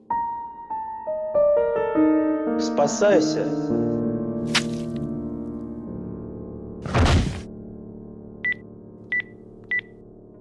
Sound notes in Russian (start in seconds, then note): 4.4 хлюпанье месива